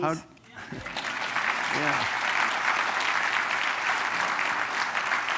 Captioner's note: applause